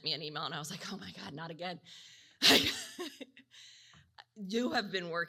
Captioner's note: laughs